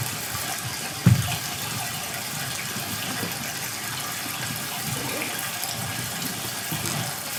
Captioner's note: water trickling continues